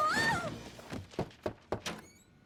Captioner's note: knock at door